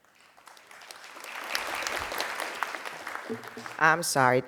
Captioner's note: crowd applauding